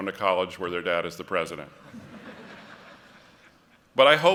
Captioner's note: laughter